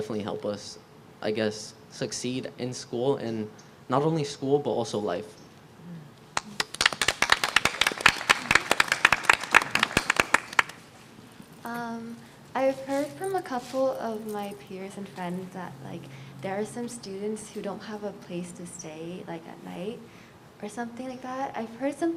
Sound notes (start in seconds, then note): 8.9 applause